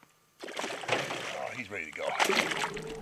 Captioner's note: fish splashing